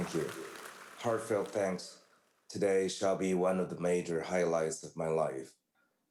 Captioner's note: applause